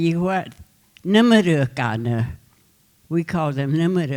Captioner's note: speaking Comanche